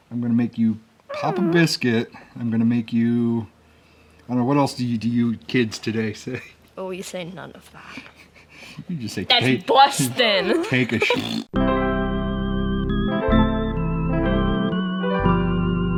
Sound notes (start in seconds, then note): 11.0 blowing a raspberry; 11.7 funeral music plays